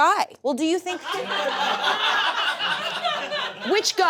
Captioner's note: audience laughs